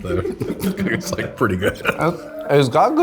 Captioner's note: laughs